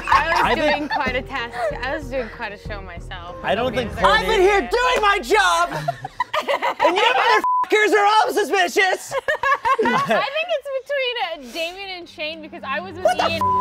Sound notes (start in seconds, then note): 5.4 laughing; 9.2 laughing